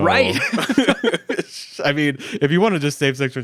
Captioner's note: both laughing